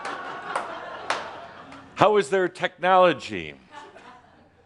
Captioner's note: laughter